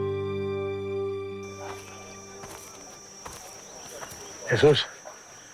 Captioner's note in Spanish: Bullicio